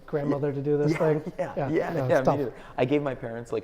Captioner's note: laughs